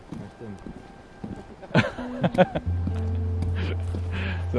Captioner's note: laughter